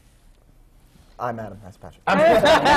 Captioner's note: laughter